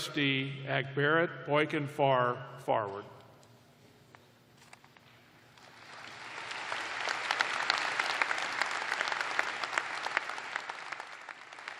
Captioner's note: applause